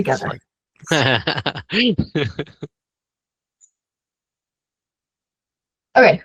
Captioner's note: laughing